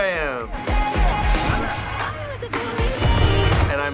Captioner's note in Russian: хихикает